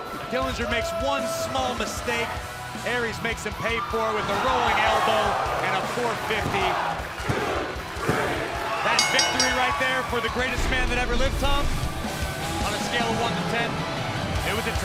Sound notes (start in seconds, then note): 7.6 crowd cheering; 8.9 bell ringing